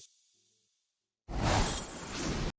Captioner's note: screen whooshes